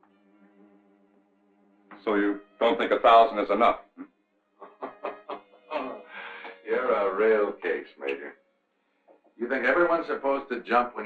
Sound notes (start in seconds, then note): 4.6 Faust laughing